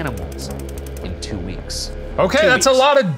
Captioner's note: typewriter clicking